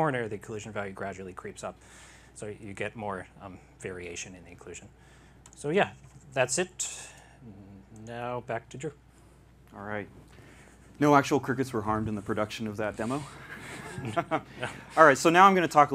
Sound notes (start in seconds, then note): 13.4 laughter